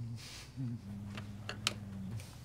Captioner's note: laughs softly